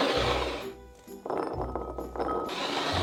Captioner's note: chickpeas dropping